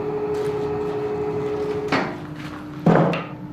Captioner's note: machine whirring stops